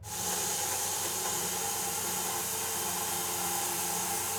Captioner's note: sawmill sawing